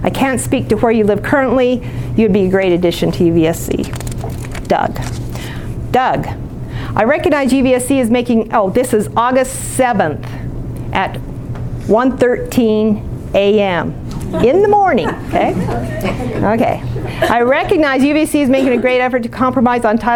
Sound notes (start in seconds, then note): 14.2 laughing